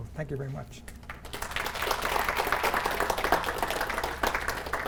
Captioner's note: applause